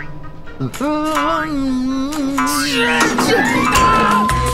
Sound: humming

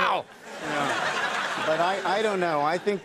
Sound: audience laughing

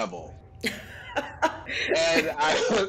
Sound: Wanda laughs

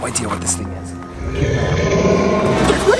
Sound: growling

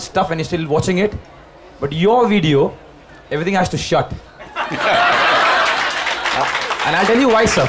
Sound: laughter/Applause

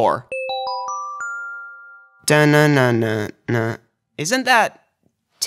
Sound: ding ding ding ding ding

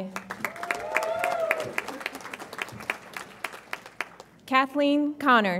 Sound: audience applauds and cheers

